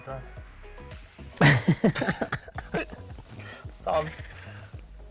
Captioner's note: both laughing